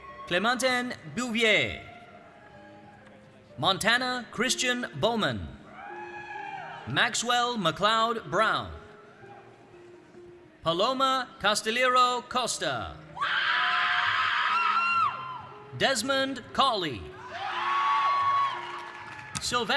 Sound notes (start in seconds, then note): 13.2 audience cheering; 17.2 audience cheering